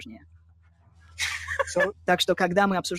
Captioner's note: laughing